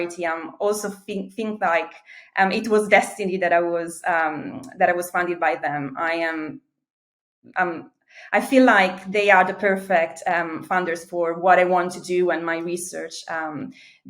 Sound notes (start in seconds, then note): none